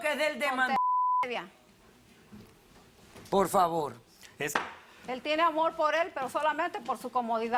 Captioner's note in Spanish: Bip